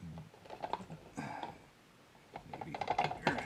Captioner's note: grunts